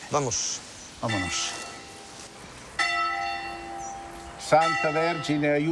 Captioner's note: bell ringing; speaking in foreign language